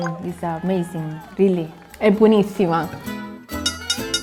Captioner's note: crowd claps; speaking in foreign language; loud upbeat music; bell rings